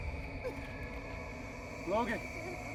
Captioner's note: crying